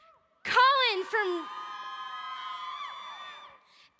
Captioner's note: crowd cheering